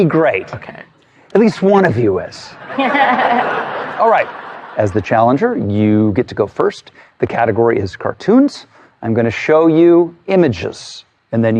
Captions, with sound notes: kakay.-A-At asast . (CHUCKLING) Alright, as the challenger, you get to go first. The category is Cartoons. I'm gonna show you images